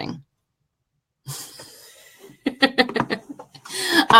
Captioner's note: laughing